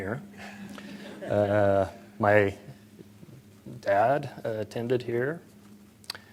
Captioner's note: laughter